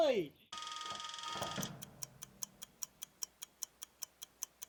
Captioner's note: clock whirring and ticking